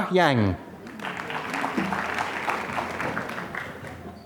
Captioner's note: applause